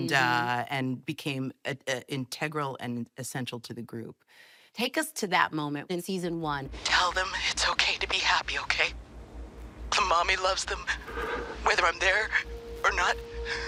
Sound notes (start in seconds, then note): 7.3 on phone